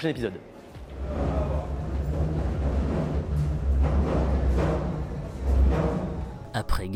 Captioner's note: Sound of a line 5 train passing over the bridge